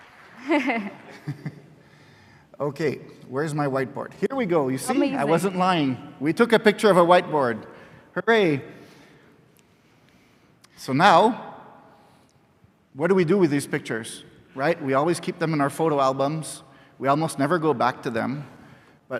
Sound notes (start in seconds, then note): 0.4 laughs